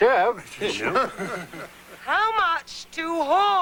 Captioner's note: murmurs/laughter